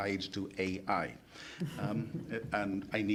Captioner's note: panelists chuckling